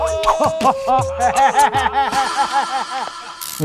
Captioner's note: american-style laughter, spreading from person to person; American-style laughter